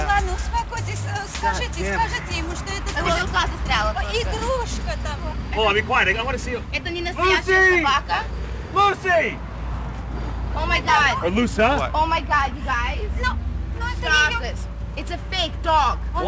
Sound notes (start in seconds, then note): 0.2 speaks in Russian